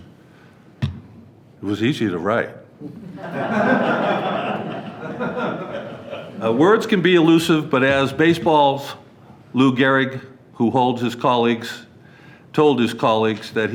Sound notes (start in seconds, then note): 2.8 board members laughing